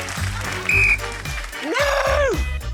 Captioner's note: blows whistle